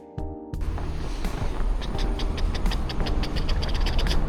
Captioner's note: imitating a mechanic sound